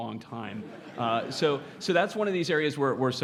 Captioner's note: laugh